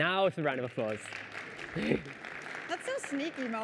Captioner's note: applause